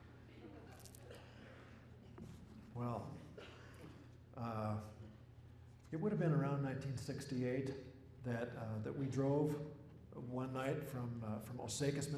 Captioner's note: laughter